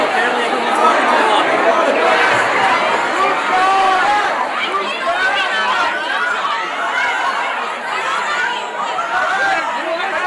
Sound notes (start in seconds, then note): 6.4 people shouting